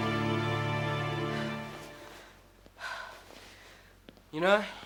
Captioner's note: Salene panting